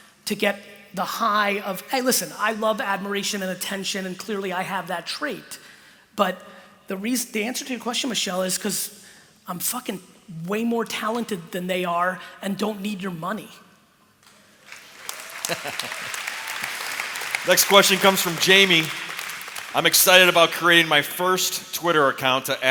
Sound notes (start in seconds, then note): 14.6 applause; 15.4 laughter